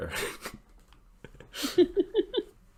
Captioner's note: chuckling